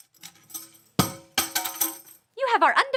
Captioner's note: tambourine falling